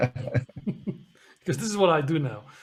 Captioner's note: laughing loudly